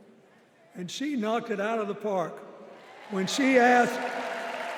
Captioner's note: applause